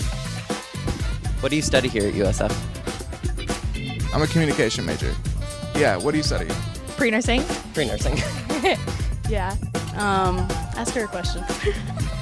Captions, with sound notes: - What do you study here at USF? - I'm a communication major. Yeah. What do you study? - Pre-nursing. - Pre-nursing. - (laughs) Yeah. - Ask her a question.